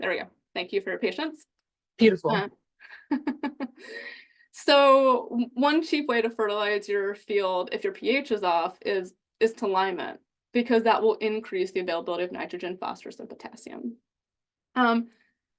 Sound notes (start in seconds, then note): 2.9 chuckles